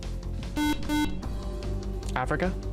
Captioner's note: buzzer